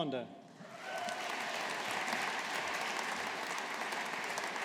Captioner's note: audience applauding